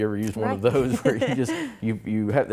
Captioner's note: laughs